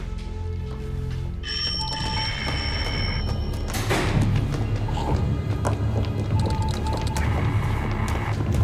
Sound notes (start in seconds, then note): 1.4 phone ringing; 3.8 ominous music